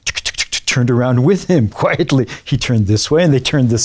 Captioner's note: imitates sprinkler ticking